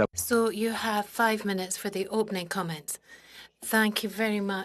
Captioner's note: speaking French